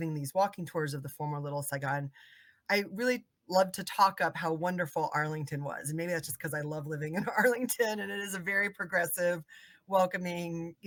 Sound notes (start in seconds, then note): 7.2 laughing